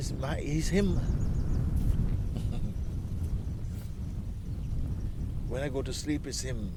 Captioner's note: Mooji laughs